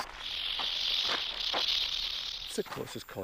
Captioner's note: rattlesnake rattling